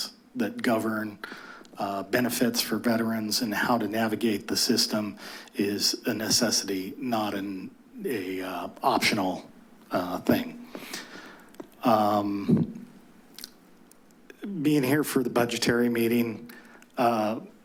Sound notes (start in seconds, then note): 13.3 clicks tongue